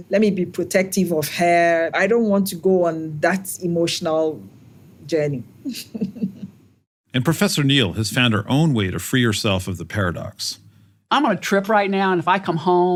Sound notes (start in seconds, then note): 5.7 laugh